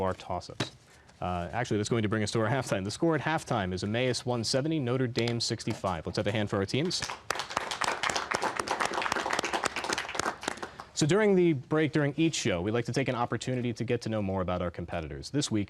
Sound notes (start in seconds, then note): 6.9 applause